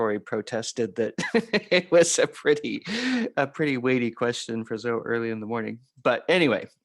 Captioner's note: laughter